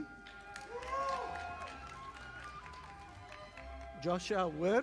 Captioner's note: audience applauding